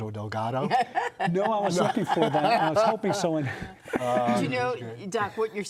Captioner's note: laughter